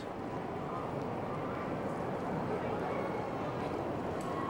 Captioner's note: distant chattering